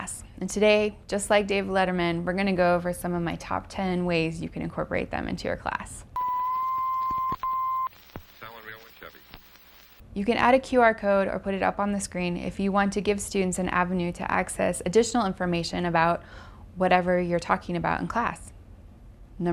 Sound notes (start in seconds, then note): 6.2 whistle